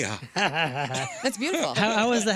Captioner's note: laughing